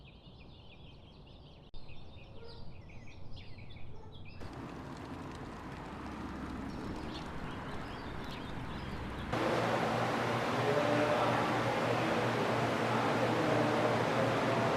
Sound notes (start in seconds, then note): 10.2 loud engine running